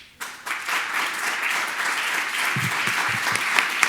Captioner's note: audience applauds